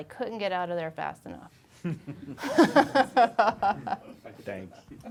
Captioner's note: laughing